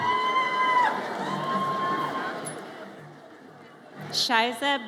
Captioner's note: audience cheers